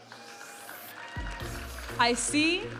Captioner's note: audience applauding and cheering